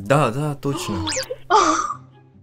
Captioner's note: gasp